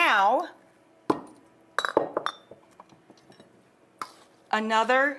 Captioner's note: glass clattering